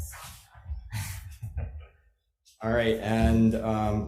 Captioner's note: chuckles